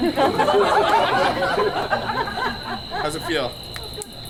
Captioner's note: audience laughs